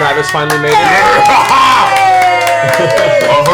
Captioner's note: cheering